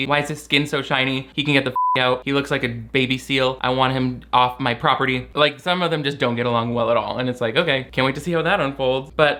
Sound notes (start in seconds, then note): 1.7 beep